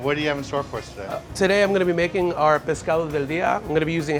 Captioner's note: speaks foreign language